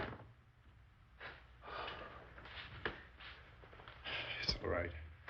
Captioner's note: exhales deeply